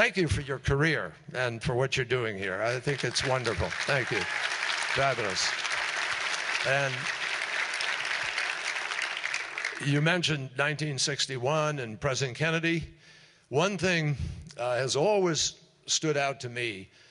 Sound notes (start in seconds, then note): 8.9 applause